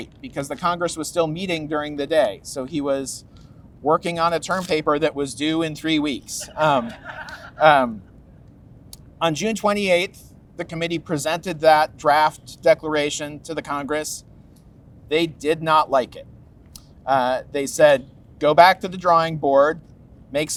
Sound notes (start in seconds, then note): 6.5 audience laughs